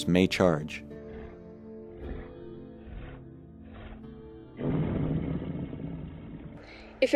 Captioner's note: sound of a bear growling